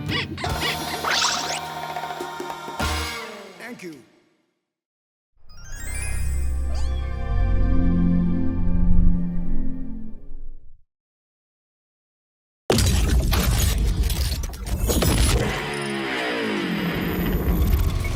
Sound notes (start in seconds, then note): 6.5 cat meowing; 15.8 rock music playing